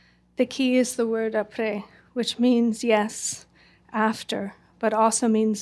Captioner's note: french